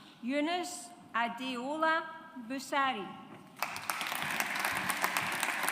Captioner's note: audience applauds